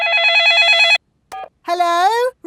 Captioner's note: dialing; cell phone ringing